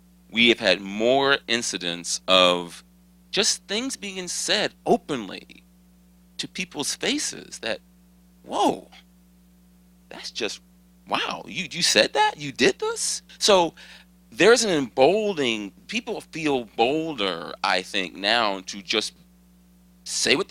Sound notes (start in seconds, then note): none